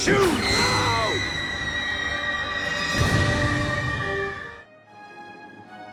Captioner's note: Mary Jane screams; classical music